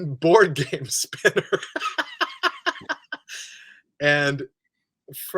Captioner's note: laughs